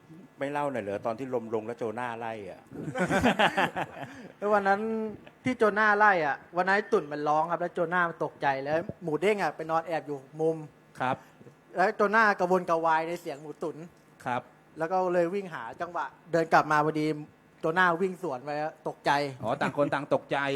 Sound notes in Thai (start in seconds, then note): 2.7 เสียงหัวเราะ